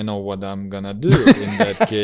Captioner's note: laughs